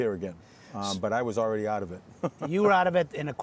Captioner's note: chuckling